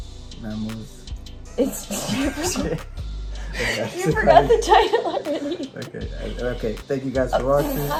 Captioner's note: laughter